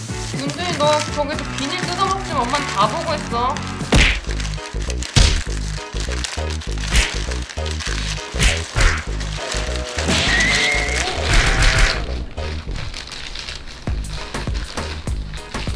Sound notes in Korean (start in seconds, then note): 0.0 바스락 소리; 3.9 퍽!; 6.9 퍽!; 8.4 퍽! 퍽!